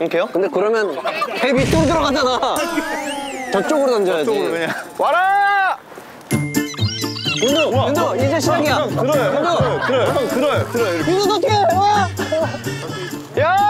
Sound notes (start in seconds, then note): 6.6 rushing